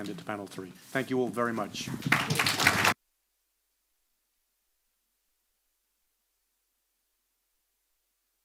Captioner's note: applause